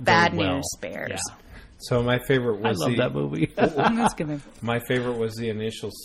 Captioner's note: DJ laughs